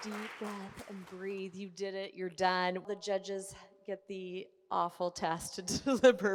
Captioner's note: laughs